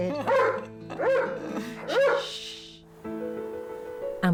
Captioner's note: Dexter barking